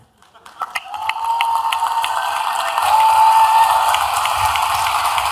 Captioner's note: applause